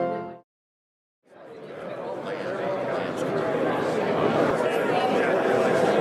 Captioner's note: crowd chatter overlapping